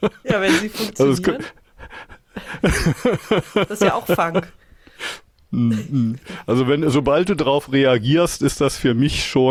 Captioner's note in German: gelächter; gelächter; schnauben